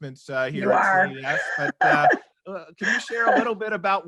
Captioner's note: laughs